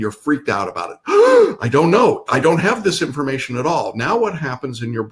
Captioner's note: gasps